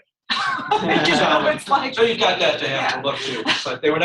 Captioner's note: laughter, talking over each other